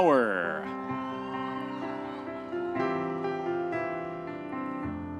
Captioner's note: audience members cheering